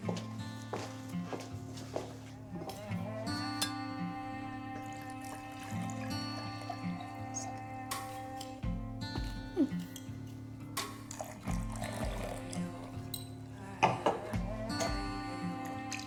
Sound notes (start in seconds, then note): 0.3 soft instrumental music; 4.6 pouring wine